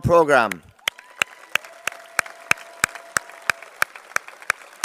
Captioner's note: applause